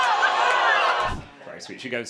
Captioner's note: crowd clamoring; screen whooshes